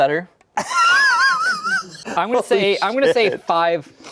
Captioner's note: laughs